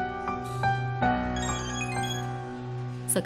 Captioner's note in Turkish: Müzik - Gerilim; Telefon zili sesi